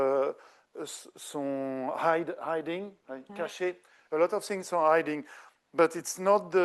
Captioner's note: speaking French